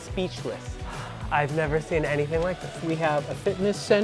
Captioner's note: sighs